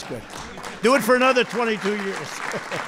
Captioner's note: applause; laughs